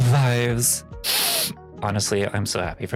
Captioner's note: sniff